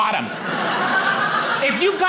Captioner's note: audience laughing